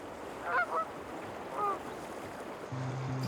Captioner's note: geese calling